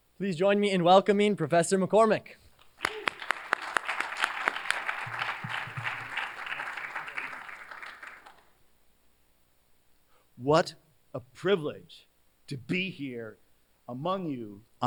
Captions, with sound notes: Please join me in welcoming Professor McCormick. [APPLAUSE] What a privilege to be here among you